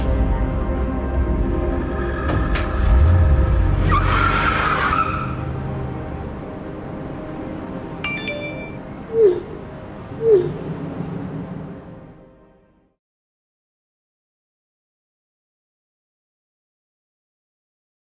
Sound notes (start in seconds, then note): 2.2 engine revs; 3.8 tires squeal; 8.1 text alert